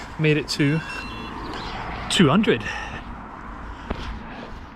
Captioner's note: GARMIN chimes